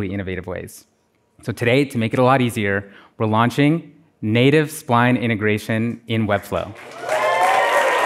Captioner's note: applause